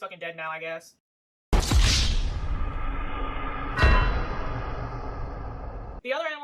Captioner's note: GTA wasted sound